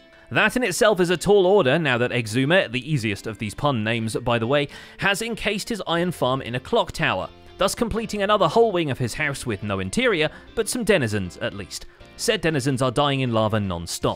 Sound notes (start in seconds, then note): none